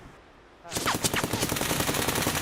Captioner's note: gun shots